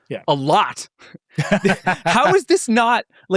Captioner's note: laughing